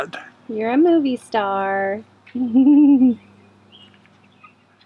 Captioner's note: laughs